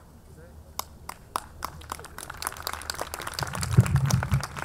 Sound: audience clapping

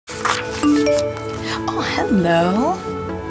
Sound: text tone

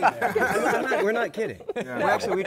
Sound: laughter

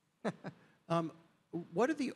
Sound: Rachel chuckling

